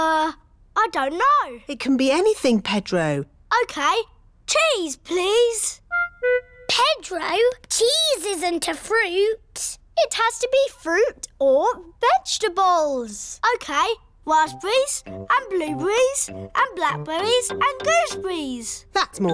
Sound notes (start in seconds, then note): none